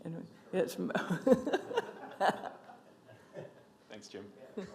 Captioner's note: laughs